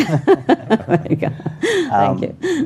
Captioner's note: all laughing